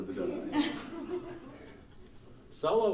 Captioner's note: laughing